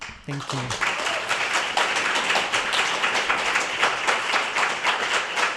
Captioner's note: applause